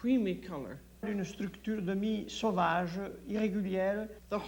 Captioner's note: speaks French